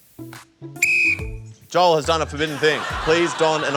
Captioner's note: blows whistle